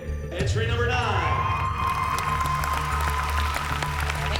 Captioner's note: cheering and applause